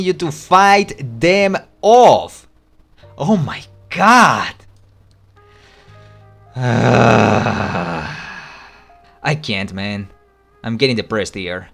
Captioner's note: sigh